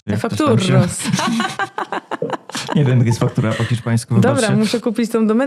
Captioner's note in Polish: śmiech